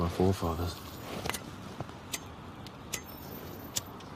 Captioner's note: lighter clicking